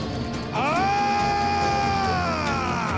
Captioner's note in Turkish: Bağırıyor